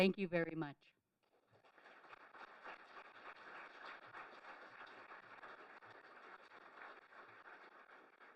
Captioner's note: applause